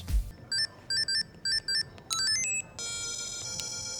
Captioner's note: Old School Nintendo Sounds